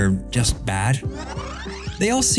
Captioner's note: fast forward whirring